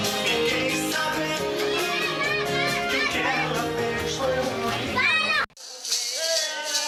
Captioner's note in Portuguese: Música de rádio; Gritos de crianças; Música de rádio; Música , vozes e chocalhos